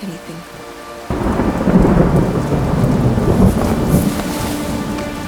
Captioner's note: thunder rumbles; clothes rustling